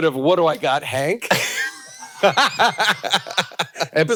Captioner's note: Hank laughing